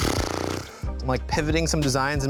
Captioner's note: blows raspberries